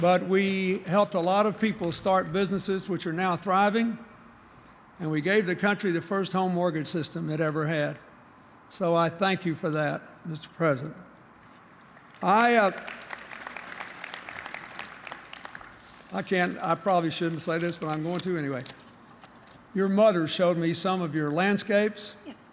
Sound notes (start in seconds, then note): 11.9 applause